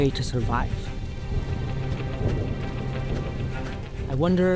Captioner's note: footsteps